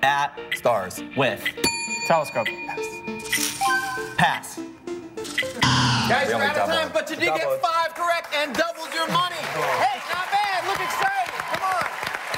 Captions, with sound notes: at stars with? [bell dings] TELESCOPE. Yes. Pass. Guys, we're out of time, but you did get five correct and doubled your money. Hey, not bad. Look excited, come on.